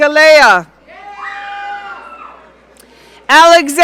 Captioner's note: audience cheering